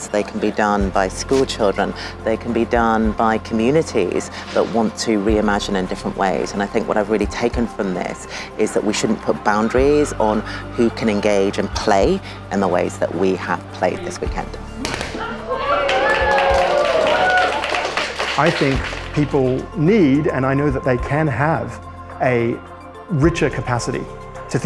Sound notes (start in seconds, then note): 13.7 pomegranates popping; 14.9 audience cheering and clapping